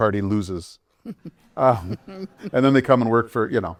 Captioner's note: laughter